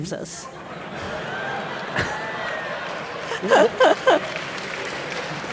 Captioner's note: audience laughing and applauding